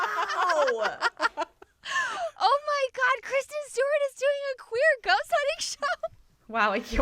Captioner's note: laughter